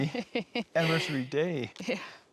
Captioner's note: laughs